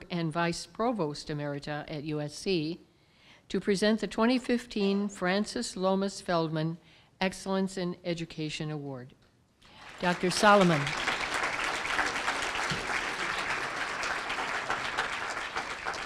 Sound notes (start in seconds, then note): 9.6 applause